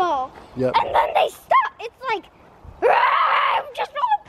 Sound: shrieking

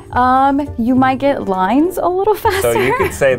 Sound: laughs

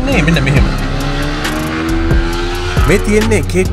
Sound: revs off like a MANIAC

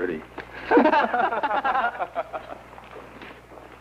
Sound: laughter

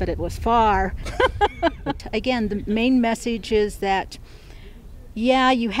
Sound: laughing

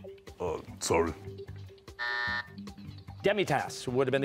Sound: buzzer

